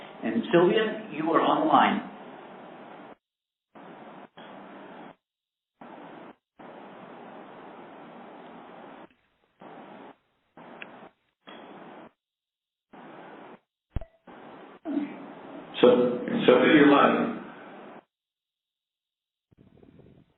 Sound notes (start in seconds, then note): 5.8 silence; 17.4 silence